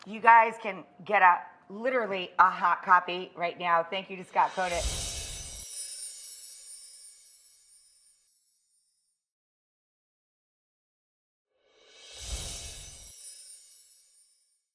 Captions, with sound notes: You guys can get up literally a hot copy right now. Thank you to Scott Conant. (sparkle chimes) (sparkle chimes)